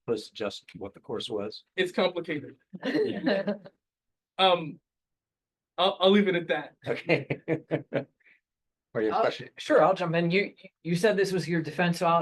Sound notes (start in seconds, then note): 2.8 laughter; 7.3 laughs